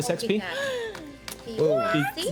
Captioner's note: gasps